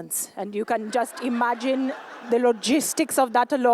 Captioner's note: laughter